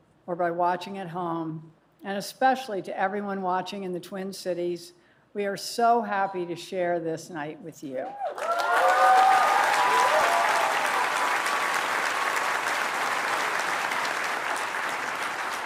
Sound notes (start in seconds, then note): 8.1 cheers and applause